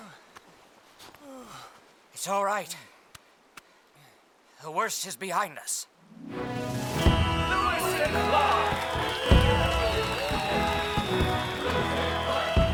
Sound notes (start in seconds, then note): 6.7 crowd cheering